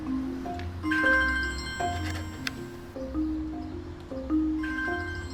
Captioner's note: phone rings